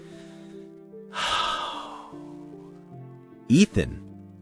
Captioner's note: sigh